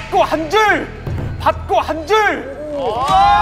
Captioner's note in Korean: 쩌렁